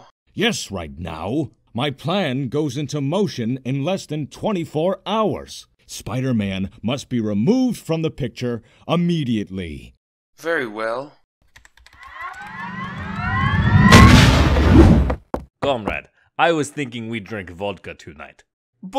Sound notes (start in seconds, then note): 11.4 scene change whoosh; 11.4 whoosh; 11.5 keyboard typing; 12.1 powering up; 14.0 footsteps